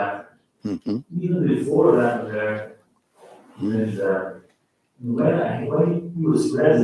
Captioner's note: faintly speaking